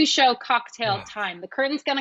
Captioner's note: sighs